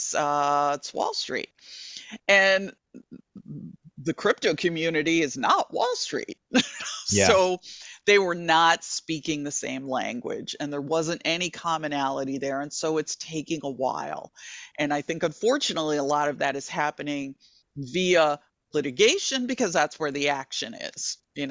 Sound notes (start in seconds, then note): 6.8 chuckling